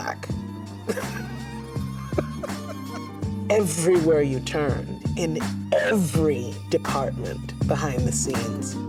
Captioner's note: laughs